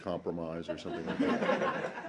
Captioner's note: laughter